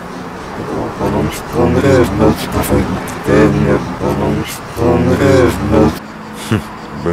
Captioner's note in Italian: incomprensibile linguaggio robotico